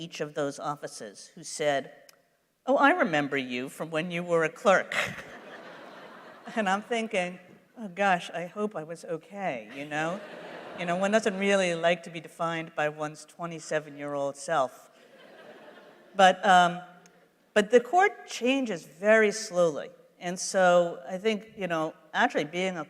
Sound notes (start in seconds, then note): 4.9 laughs; 4.9 laughter; 9.7 laughter